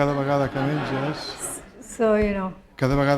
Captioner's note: speaking spanish; laughter